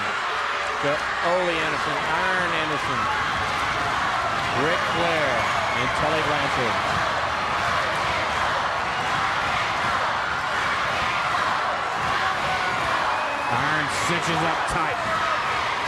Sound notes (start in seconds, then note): 4.3 crowd cheering; 9.0 crowd cheering